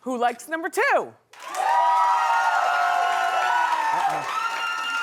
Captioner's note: cheering